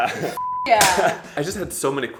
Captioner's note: laughing